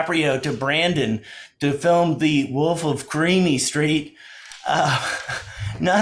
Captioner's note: laughs